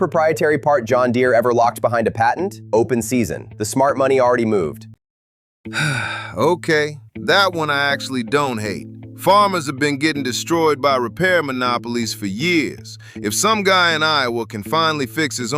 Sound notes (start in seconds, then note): 5.7 sigh